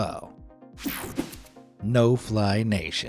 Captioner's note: graphics whooshing